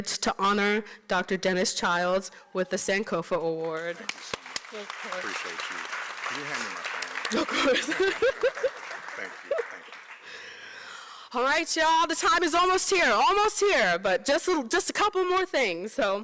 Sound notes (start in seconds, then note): 3.5 applause